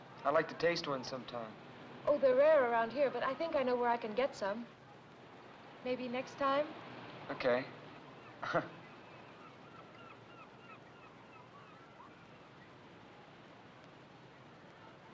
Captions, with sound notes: - I'd like to taste one sometime. - Oh they're rare around here, but I think I know where I can get some. Maybe next time? - Okay. (chuckles) (sound of ocean and seagulls)